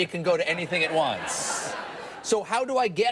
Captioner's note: audience laughs